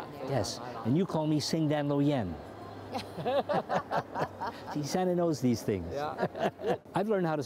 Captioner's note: speaking cantonese; laughter